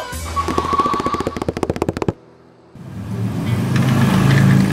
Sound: feet pattering; engine revving

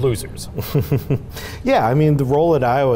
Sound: chuckling

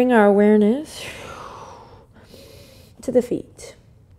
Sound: exhale

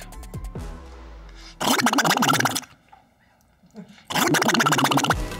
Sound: Donald Duck sounds

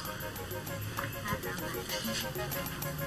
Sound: chuckles

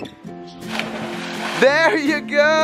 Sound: water splashes

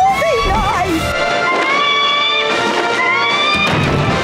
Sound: adventurous music playing; creature screeching; screeching, music continuing

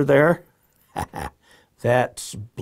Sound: laughs

